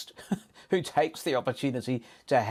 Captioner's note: chuckles